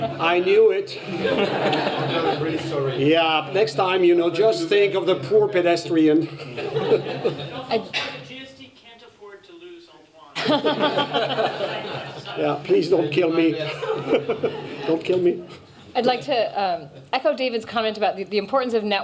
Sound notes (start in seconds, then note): 1.0 laughter; 6.3 laughter; 10.3 laughter; 13.5 laughter